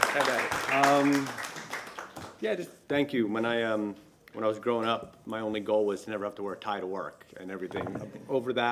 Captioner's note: applause